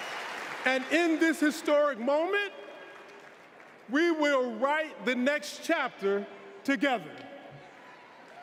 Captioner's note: applause